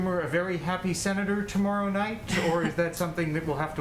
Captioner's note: laughs